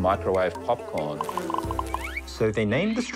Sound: mosquito buzzing, corn popping

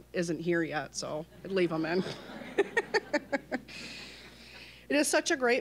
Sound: all laughing

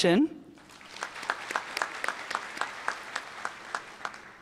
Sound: applause

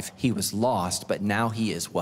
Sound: none

